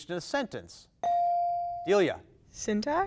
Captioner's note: bell dings